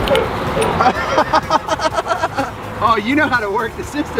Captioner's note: laughs